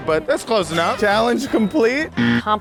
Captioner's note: buzzer